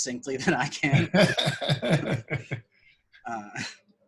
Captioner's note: laughs